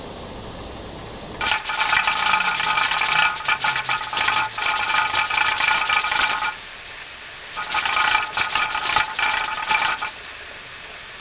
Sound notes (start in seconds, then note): 1.4 gauge rattling; 10.2 sound of steam escaping